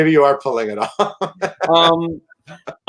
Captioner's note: chuckle